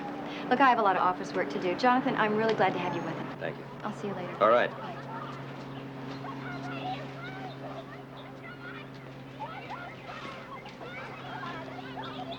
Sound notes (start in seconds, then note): 5.4 children playing; 7.4 birds tweeting